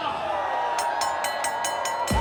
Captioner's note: people cheering; bell dinging